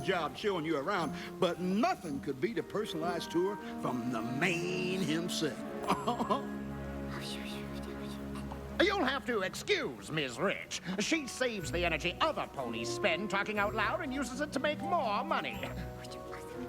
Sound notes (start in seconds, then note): 7.5 whispers